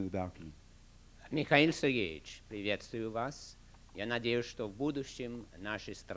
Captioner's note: non-english speech